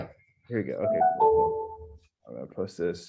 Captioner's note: bell chiming